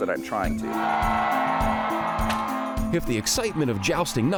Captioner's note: crowd cheers